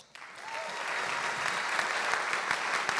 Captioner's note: applause